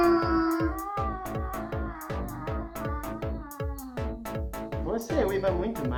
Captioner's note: howls in Portuguese; howling badly